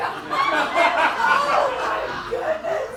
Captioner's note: audience laughing